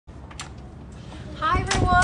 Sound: door clicking

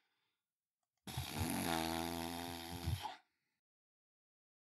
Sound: exasperated raspberry sound

